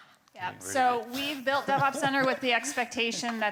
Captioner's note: attendee laughing